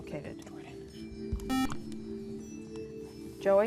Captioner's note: buzzer